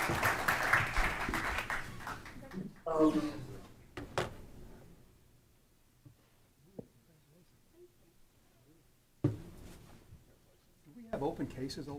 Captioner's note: applause